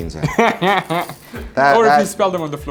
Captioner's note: laughing